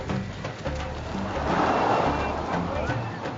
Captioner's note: car whooshes